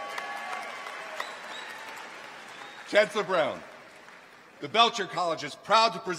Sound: applause

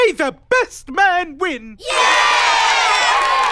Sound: cheering

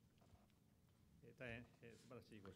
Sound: speaking japanese

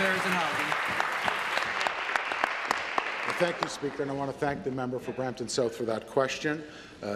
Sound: applause

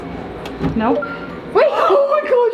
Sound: door beeping

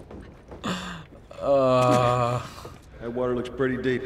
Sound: grumbles anxiously

